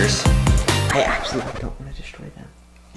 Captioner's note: record scratch